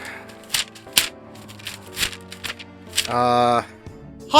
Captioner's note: pages flicking